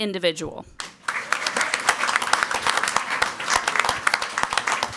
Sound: crowd clapping

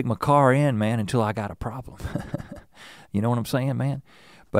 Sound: chuckles

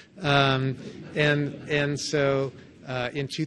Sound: audience laughs

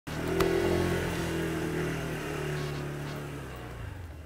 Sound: motorcycle engine running

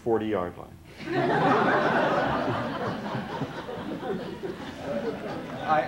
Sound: laughter

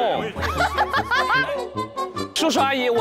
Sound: laughing

